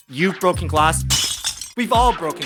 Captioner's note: glass Breaking Sound